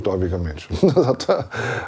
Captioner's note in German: Lachen